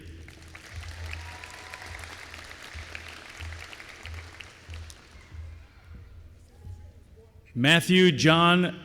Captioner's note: applause